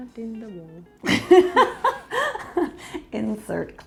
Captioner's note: laughs